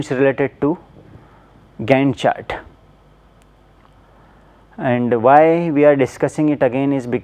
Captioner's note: hvac